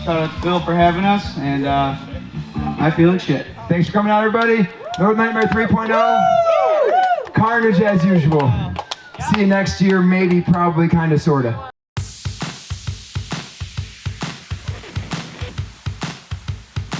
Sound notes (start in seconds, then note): 5.9 crowd cheering; 12.0 rock music playing